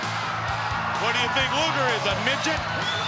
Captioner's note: crowd cheering